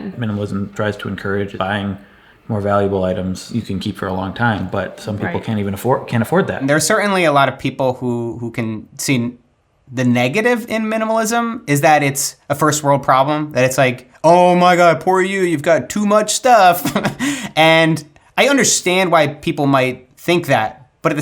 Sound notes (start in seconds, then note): 16.6 laughs